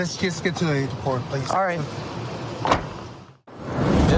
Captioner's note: car door closes